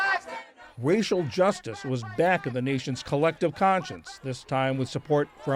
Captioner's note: voice-over